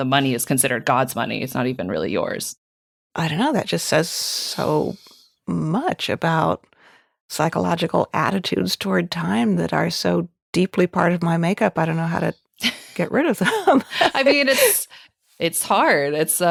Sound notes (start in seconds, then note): 12.6 laughing